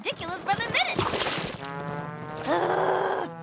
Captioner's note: splash!